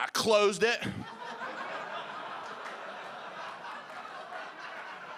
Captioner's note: audience laughing